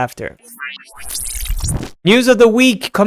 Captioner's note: electric whooshing